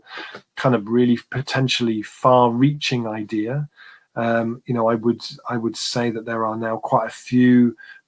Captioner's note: erm